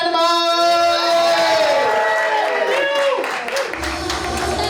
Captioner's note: cheers and applause